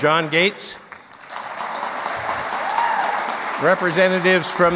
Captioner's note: clapping